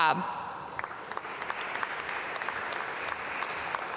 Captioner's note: applause